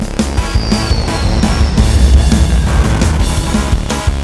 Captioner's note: engine whirring; exciting music